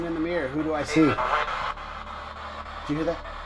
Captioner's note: spirit box voice